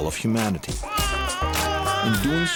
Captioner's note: child crying